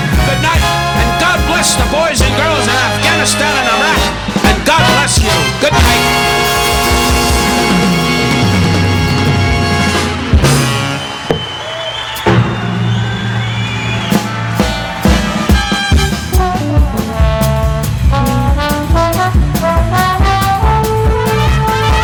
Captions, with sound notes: - Goodnight, and God bless the boys and girls in Afghanistan and Iraq, and God bless you, goodnight. (upbeat instrumental music continues) (audience applauding) (audience whistling) (upbeat instrumental music)